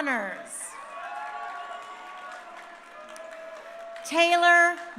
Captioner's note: crowd cheering